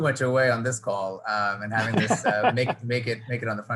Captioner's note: laughing